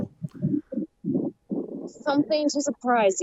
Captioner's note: breeze blowing